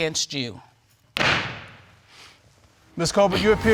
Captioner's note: bangs gavel